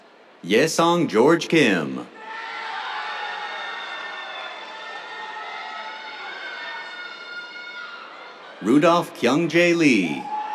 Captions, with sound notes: Yeseong George Kim. [CHEERS] Rudolph Kyung Jae Lee.